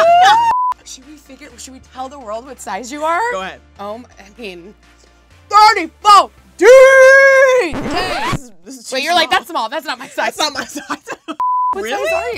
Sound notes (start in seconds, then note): 0.0 laughs; 7.6 record scratches; 11.1 laughs